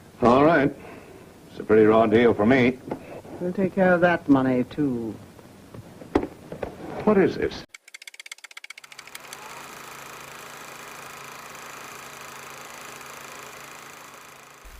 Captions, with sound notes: - Alright. It's a pretty raw deal for me. - We'll take care of that money too. - What is this? (typewriter keys clacking) (projector whirring)